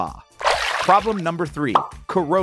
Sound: water splashing

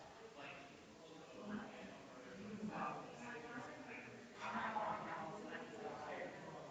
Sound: people chattering distantly continues

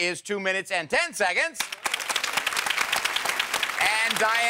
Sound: audience applauds

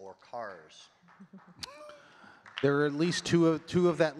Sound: people giggling

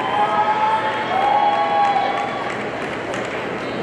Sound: audience cheering

